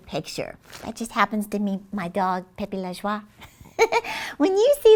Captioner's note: chuckles